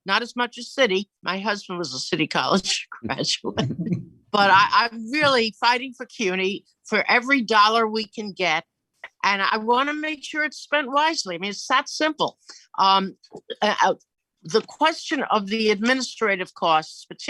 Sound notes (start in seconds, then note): 3.6 chuckles